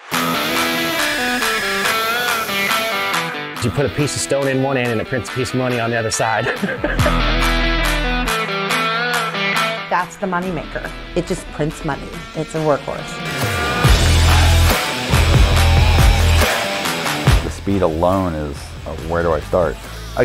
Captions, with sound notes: (upbeat music) - You put a piece of stone in one end and it prints a piece of money on the other side. (man laughing) - That's the money maker. It just prints money. It's a workhorse. (upbeat music) - The speed alone is where do I start?